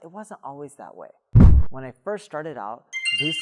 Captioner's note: air whooshing; chimes ringing